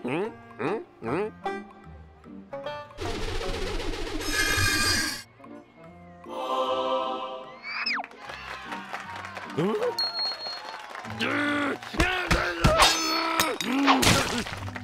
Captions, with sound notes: HMM? HMM? HMM? HMM? (pumpkin whooshing) (choir sings) (cheers and applause) HMM? RRR! (shouting) MMM!